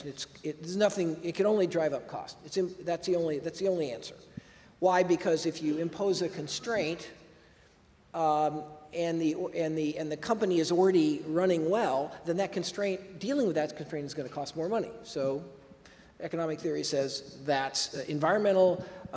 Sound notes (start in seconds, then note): none